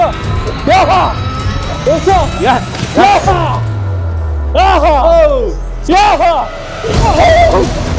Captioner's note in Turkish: Köpeğin dikkatini çekmek için bağırıyor; Tansiyon müzik ve bağırma sesleri